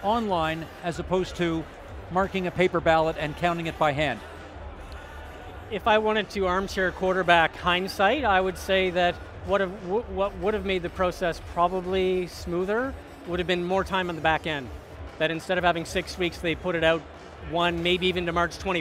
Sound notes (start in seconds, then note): none